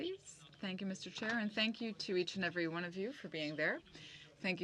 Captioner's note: speaking french